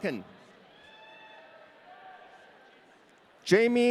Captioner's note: audience cheering